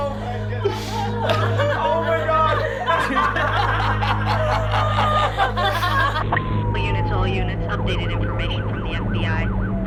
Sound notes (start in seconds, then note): 2.9 laughter